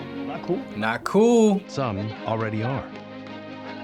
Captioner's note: voice-over